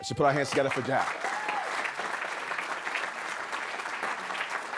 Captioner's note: audience clapping